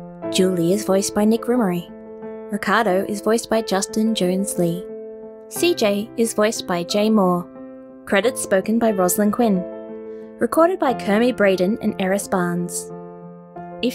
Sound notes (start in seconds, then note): none